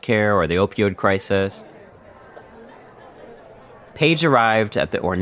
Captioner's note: scene setting audio, murmuring and walla